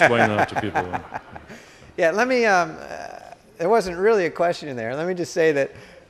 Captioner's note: laughter